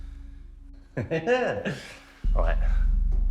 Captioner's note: Danny chuckles